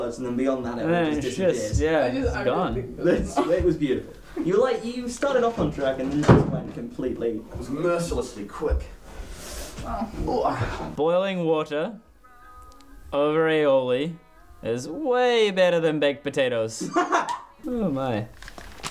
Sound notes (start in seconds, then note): 6.0 door slams; 10.2 groans; 16.8 laugh; 18.3 headphones clatter